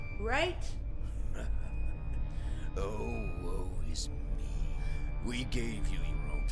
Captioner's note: laughs